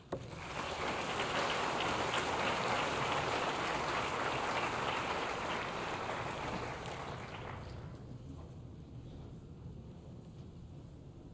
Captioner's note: applause